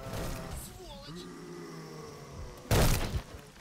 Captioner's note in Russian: рык